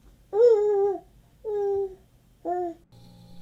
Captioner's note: baby cooing